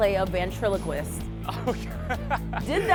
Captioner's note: laughter